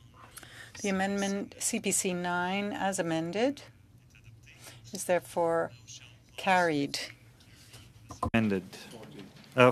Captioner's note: speaking French